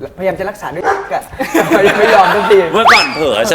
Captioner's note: word was censored with a bark